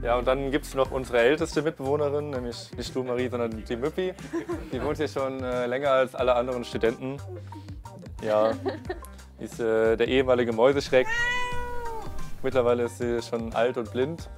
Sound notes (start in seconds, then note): 8.3 laughter